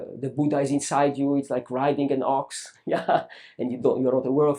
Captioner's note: laughs